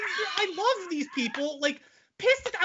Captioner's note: laughing